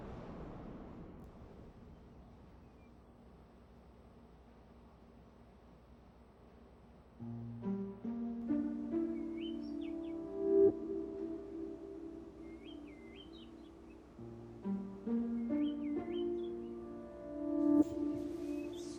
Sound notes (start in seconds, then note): 7.1 tranquil music; 8.8 birds chirping